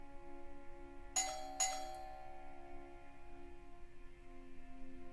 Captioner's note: doorbell rings; solemn ambient music